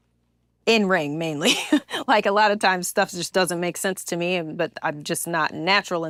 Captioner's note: laugh